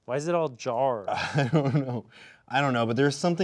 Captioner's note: laughing